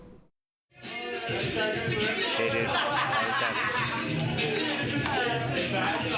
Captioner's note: people talking